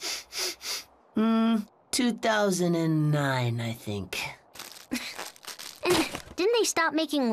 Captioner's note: sniffs